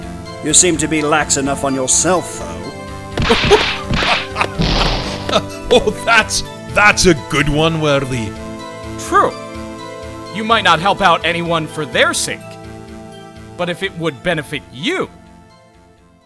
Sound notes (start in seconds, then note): 3.2 laughing